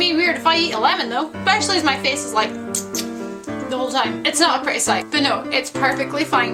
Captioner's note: squeaking noise